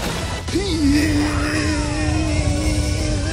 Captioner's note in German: Krachen; Angestrengte Laute